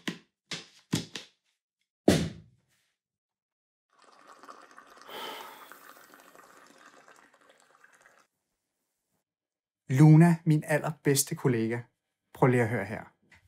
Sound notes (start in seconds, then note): 5.0 he exhales deeply